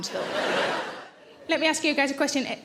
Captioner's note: audience laughs